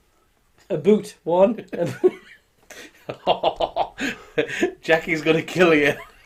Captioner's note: laughing